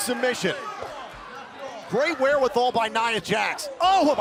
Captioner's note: crowd cheering